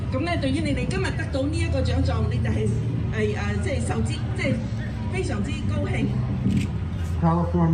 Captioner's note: speaking foreign language